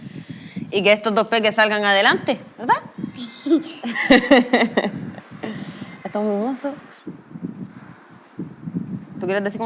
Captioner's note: laughs